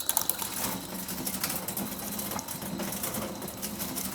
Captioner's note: plastic rattling